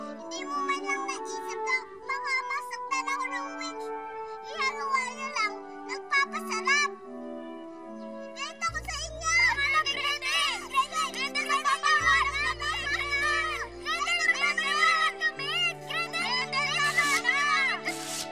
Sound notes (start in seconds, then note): 12.6 all three shouting